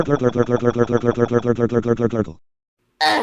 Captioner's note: barfing